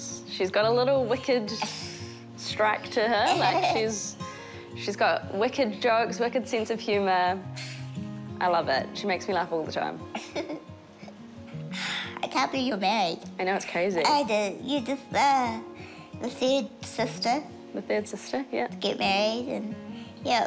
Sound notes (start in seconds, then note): 11.5 sighs